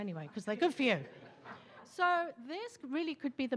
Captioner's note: attendees laughing